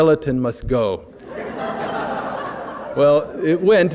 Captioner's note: laughter